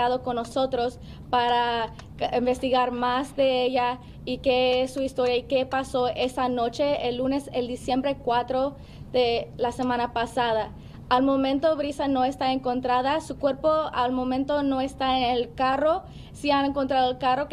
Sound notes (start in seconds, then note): 2.2 speaking spanish